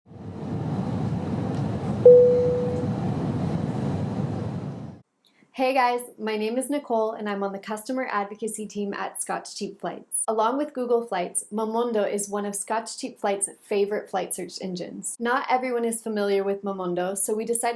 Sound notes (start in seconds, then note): 1.9 airplane engines; 2.0 ding